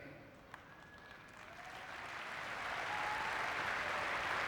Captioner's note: audience clapping